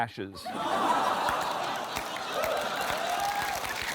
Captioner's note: laughter